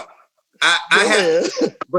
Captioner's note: laughs